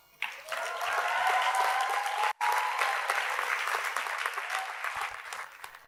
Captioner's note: audience cheers and applauds